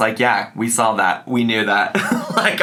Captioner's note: laughs